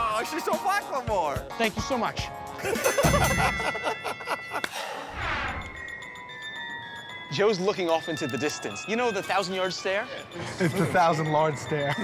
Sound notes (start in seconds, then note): 3.0 ding!